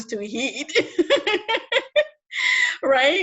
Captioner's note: laughs